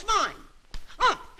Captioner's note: thumps